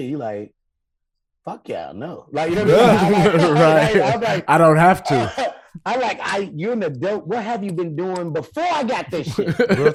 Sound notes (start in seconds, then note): 2.5 hosts laughing